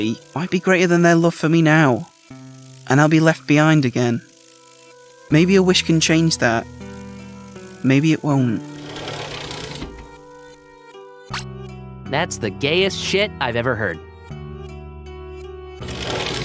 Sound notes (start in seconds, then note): none